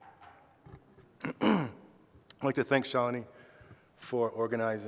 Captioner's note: clears throat